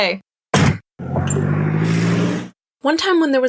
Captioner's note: car ecstatically whooshes all the way home